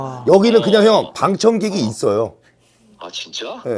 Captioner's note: haha